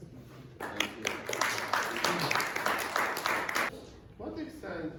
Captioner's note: applause